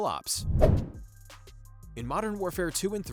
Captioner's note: playful whoosh